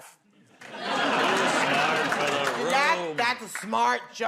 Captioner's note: laughter